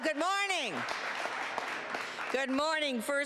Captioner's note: applause